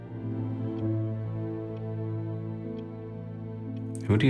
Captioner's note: gentle music continues; clock ticking